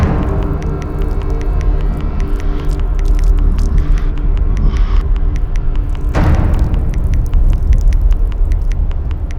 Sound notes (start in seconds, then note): 3.8 bear huffing; 6.2 suspenseful music